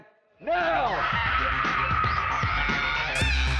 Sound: screaming

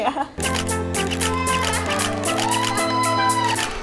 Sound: bouncy music; audience cheering, children laughing; shutter clicking

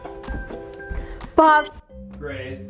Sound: machine beeps

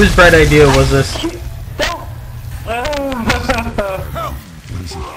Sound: sob

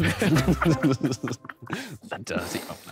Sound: laughter

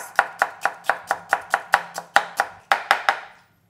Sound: chopping sound

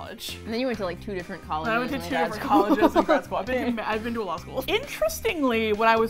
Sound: laughs

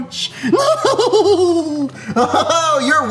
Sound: laughs

